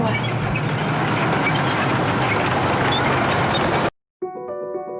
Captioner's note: tank clanging; uplifting music